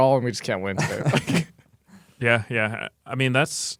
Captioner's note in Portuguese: risos